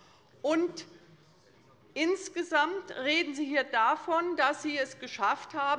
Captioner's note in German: none